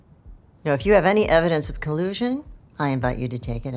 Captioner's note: none